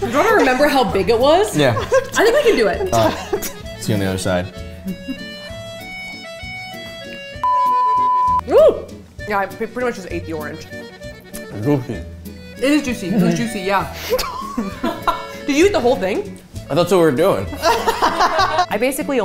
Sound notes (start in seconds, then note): 6.3 upbeat music; 7.4 stand-by tone; 17.5 all laughing